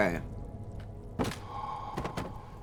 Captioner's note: thunk